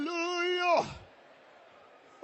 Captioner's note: கைதட்டல்; చప్పట్లు